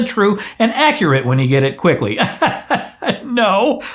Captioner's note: laughs sarcastically